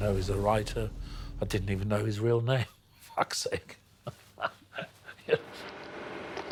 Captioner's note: laughing